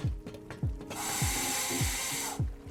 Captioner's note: diving tank sound